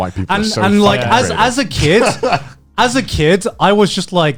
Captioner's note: chuckling